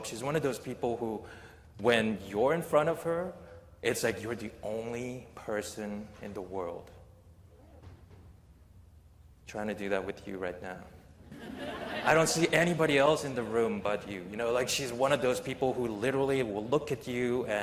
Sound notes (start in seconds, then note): 11.2 laughter